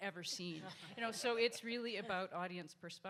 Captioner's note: audience laughs